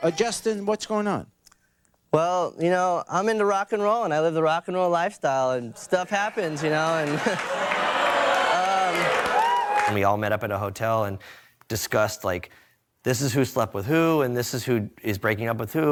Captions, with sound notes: Justin, what's going on? - Well, you know, I'm into rock and roll and I live the rock and roll lifestyle and stuff happens, you know, and- (audience members cheering) (audience members booing) And we all met up at a hotel and discussed, like, this is who slept with who and this is who is breaking up with who